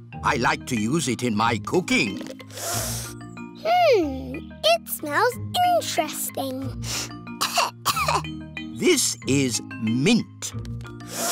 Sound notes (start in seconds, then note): 2.4 sniffs; 6.8 sniffs and coughs; 11.0 sniffs